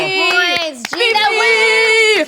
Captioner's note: clapping